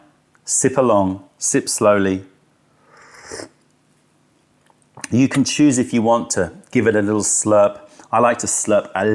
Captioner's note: sips tea